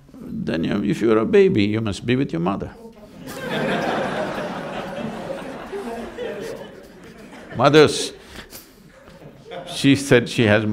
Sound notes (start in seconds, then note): 6.4 laughter; 8.6 laughs